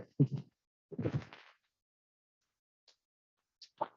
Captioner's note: chuckling